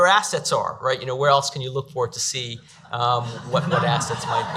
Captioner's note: audience laughs